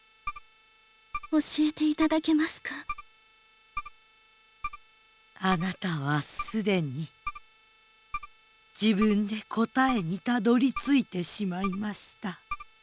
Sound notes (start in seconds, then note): 0.7 silence; 4.4 silence